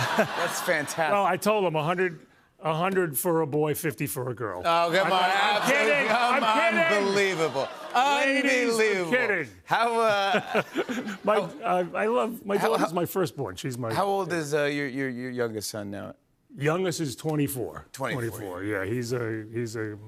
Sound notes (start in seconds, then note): 0.0 laughter; 4.8 audience booing; 10.1 laughter